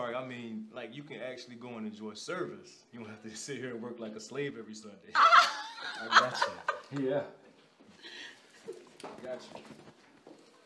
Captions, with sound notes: I mean like you can actually go and enjoy service. You don't have to just sit here and work like a slave every Sunday. (woman laughing) I got you. Yeah. I got you.